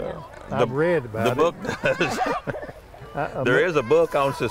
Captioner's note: laughs